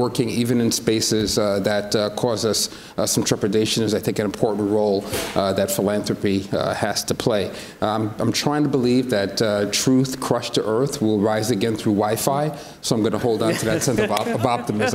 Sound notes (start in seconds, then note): 13.4 others laugh